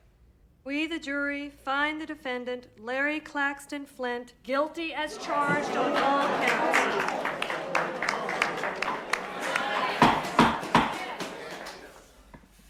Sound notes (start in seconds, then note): 5.0 scattered groans and applause